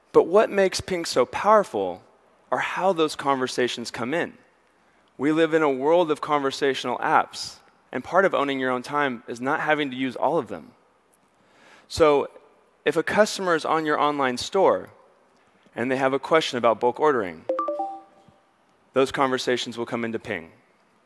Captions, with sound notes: But what makes Ping so powerful are how those conversations come in. We live in a world of conversational apps and part of owning your own time is not having to use all of them. So if a customer is on your online store and they have a question about bulk ordering, (notification dings) those conversations will come into Ping.